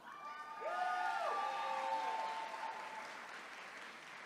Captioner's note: attendees cheering